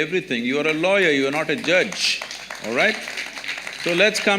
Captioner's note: applause